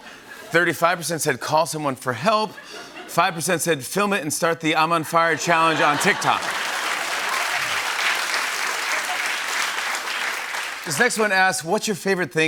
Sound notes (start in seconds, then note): 6.5 laughter and applause